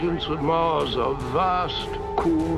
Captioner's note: male Voice